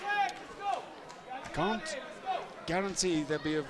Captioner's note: crowd chatter